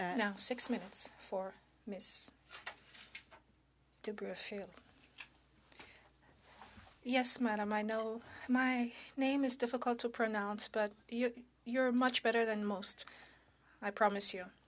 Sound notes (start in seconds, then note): 2.3 speaking in French